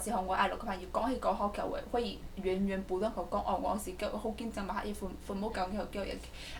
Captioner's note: speaks Mandarin